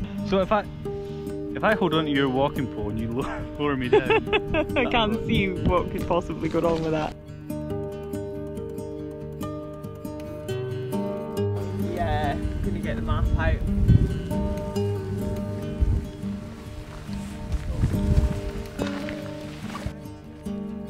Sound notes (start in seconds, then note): 3.9 laughs